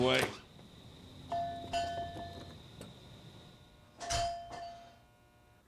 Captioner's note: door bell